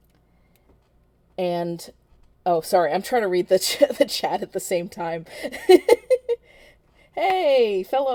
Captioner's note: laughing